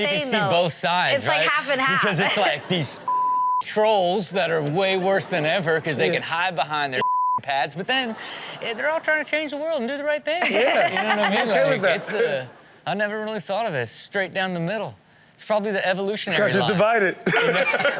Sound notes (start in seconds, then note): 2.1 laughing; 3.0 beep; 7.0 beep; 10.4 Chanel and audience laughing; 17.2 audience laughing; 17.2 laughing